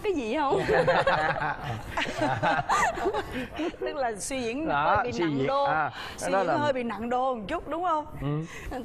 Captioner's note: laughing